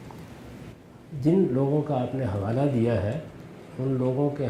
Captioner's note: speaking urdu